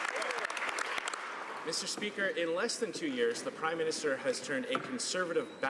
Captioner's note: some Applause